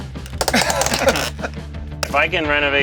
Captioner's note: laughs